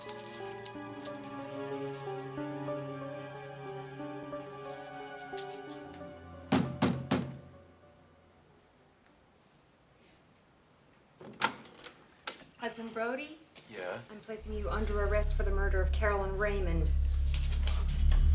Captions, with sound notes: (loud knocking) - Hudson Brody. - Yeah. - I'm placing you under arrest for the murder of Carolyn Raymond.